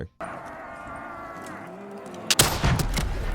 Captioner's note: zombies groaning; gun firing